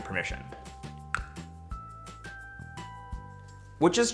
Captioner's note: clicks tongue